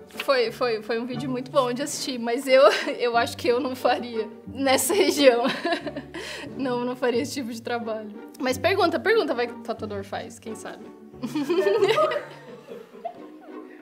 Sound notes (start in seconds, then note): 5.1 laughs; 11.2 laughs